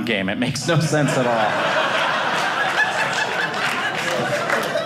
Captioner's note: audience laughing